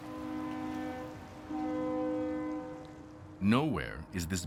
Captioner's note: horn blowing